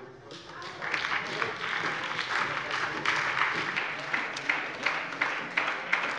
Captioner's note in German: Beifall bei der SPD